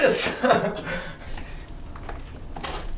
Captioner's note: laughs; footsteps